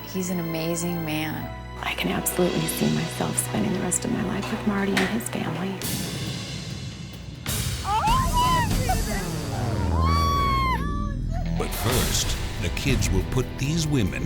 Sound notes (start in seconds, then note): 7.3 dramatic music; 7.8 women exclaiming